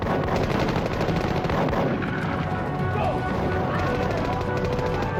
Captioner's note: guns firing